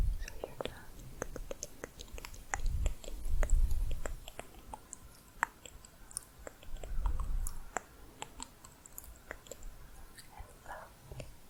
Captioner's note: tongue clicking